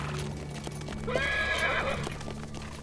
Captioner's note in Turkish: At kişniyor